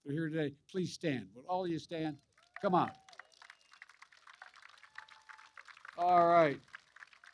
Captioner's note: applause